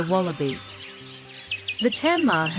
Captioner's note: birds' chirping